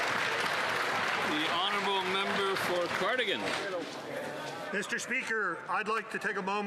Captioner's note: some Applause